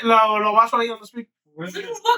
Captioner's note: speaking Foreign Language